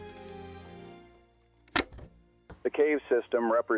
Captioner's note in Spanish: Clic en grabadora